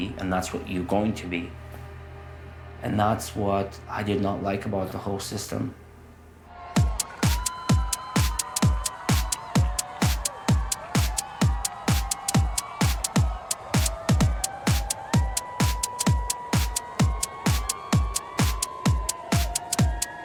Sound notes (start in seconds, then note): 6.9 upbeat music; 9.5 cheering